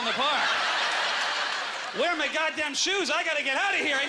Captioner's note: audience laughter